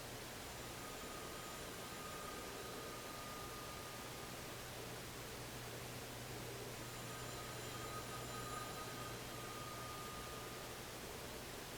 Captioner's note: distant payphone ringing